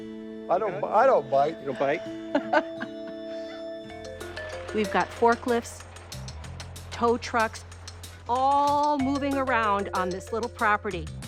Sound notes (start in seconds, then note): 2.1 laughs